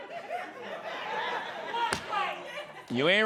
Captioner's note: scattered laughter